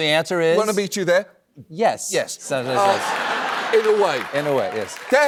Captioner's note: laughter